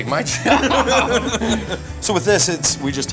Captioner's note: both laugh loudly